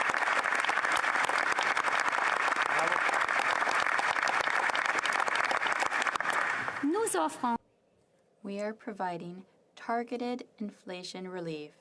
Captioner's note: applause